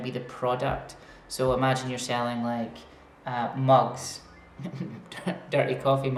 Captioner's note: laughs